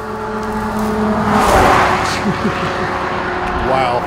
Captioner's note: vehicle whizzes